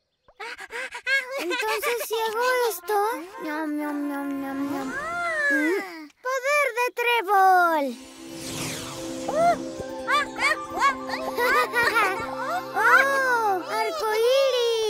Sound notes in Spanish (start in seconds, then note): 8.5 Cornwallis se rie